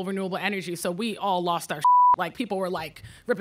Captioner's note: beep